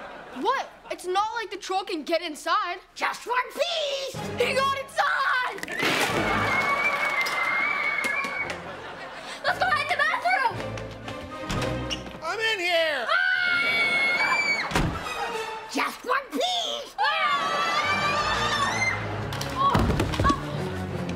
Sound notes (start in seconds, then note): 5.5 squealing; 13.0 screaming; 17.0 screaming